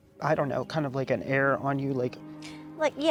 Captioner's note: gruffing